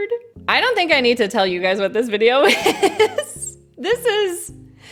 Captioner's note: laughs